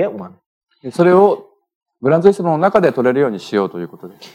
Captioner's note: speaking japanese